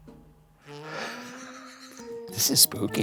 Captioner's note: chuckling